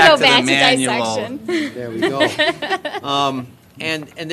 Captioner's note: laughter